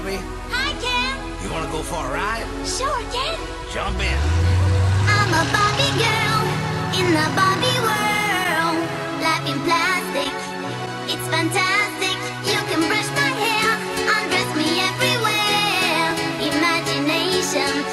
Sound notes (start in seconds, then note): 4.2 car drives off